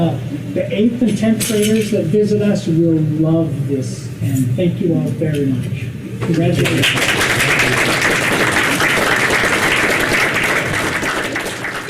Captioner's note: applause